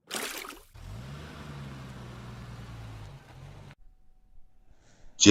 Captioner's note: car drive up